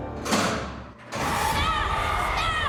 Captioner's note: shouting